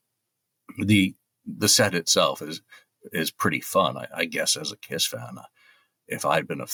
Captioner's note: clears throat